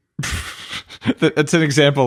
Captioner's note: laughing